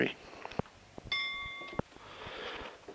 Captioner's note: bell Sound